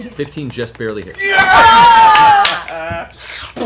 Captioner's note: cheering